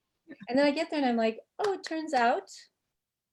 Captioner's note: laughing